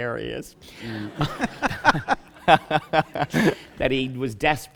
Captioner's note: laughter